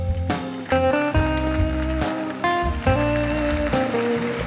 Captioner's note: bike gears click